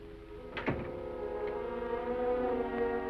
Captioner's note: ominous music; door closes; melancholy music